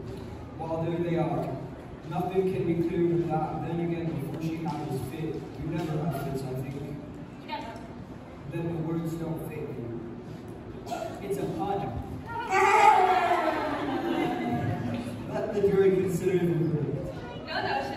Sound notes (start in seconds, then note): 13.4 awkward laughter from court